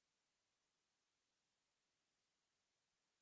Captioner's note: none